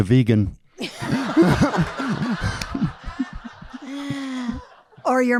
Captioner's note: audience laughing